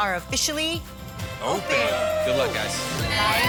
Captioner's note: cheering